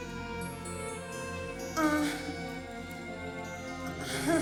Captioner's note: moaning